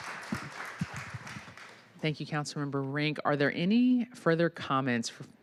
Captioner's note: applause